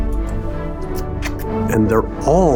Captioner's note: kiss smooching